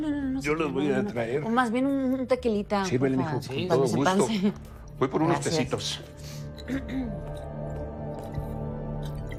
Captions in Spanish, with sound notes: - No, no, no... señora... - Yo los voy a traer. - O, más bien, un tequilita. - Sírvele, mijo. Con todo gusto. - Pa que se me pase. - Voy por unos tecitos. - Gracias. [Carraspea]